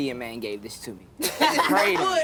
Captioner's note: laughter!